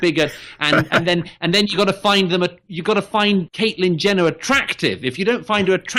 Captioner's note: Harris laughs